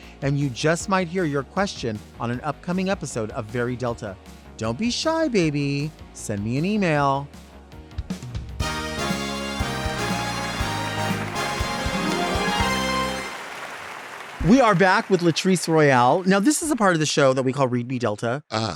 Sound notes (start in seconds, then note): 8.3 lively music; 13.5 audience applauding